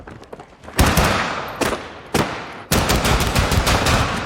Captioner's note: guns firing